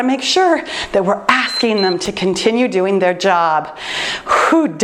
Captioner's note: timer beeps